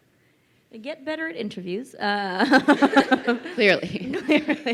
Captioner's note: crowd laughing